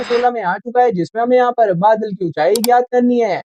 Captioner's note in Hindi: नाक से की जाने वाली आवाज़